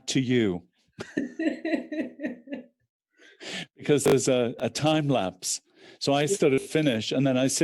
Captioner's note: laughter